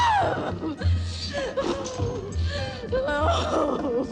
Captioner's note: screaming